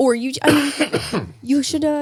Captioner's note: Nick coughing